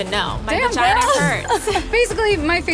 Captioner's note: chuckles